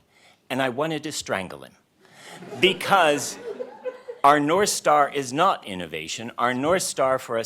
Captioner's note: laughter